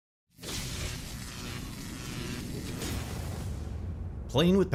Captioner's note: electricity sizzling